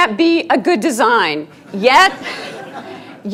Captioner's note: students laughing